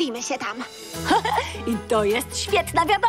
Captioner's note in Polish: śmieje się